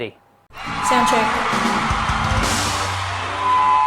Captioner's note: cheering